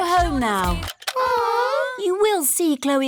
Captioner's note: music stops; all groan